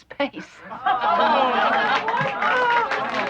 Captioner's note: cheering